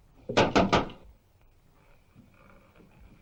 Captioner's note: knocking